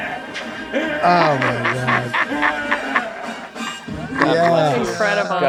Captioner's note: Danny laughs loudly